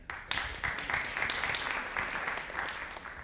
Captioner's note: audience applauding